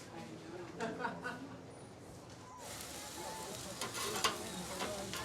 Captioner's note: people chattering